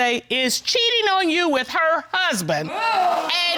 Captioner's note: audience exclaims